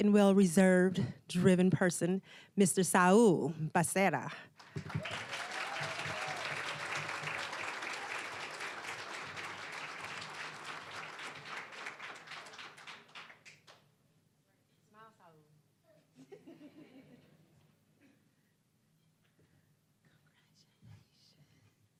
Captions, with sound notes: and well-reserved, driven person, Mr. Saul Becerra. (applause, cheering) (applause)